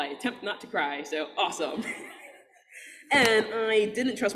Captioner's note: audience laughing